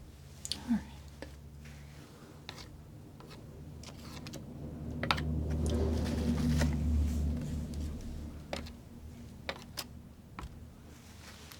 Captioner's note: scratching